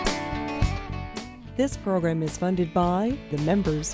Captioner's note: voiceover